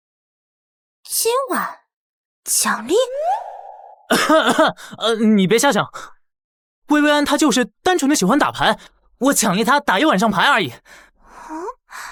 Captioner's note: cough